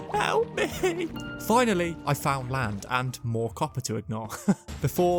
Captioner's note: laugh of satisfaction with an incredibly funny joke just made